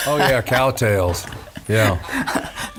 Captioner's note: laughing